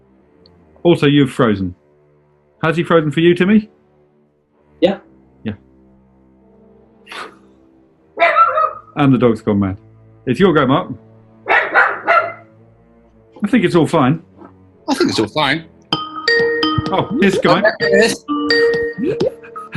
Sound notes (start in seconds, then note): 8.1 dog barks; 11.4 dog barks; 15.9 skype ringtone